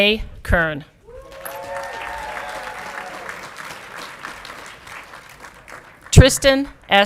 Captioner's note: audience clapping and cheering